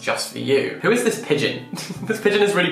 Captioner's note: laughing